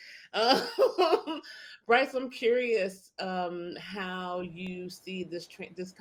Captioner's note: laughs